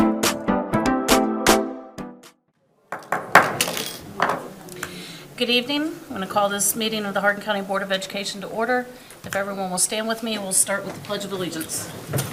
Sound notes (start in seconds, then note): 2.9 gavel bangs